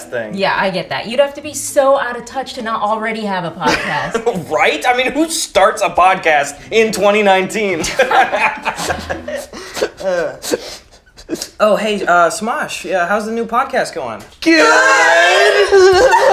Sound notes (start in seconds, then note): 7.8 laughter; 8.7 sniffling